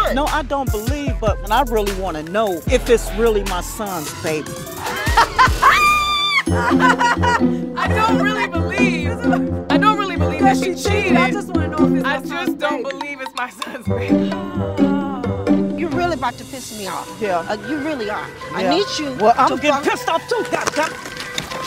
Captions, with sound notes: No, I don't believe, but I really wanna know if it's really my son's baby. (all laughing) "I don't really believe..." "I don't really believe that she cheated..." That she cheated. "I just wanna know if it's my son's baby." "I just don't believe it's my son's baby." You're really about to piss me off. Yeah? You really are. I need you to-- Yeah? Well, I can get pissed off too, God damn it!